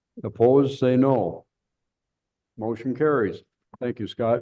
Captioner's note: silence